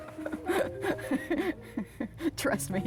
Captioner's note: laughs